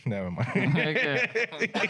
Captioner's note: laughing